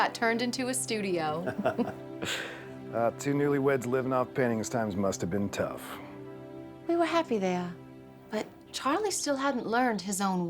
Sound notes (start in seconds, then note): 1.4 laughter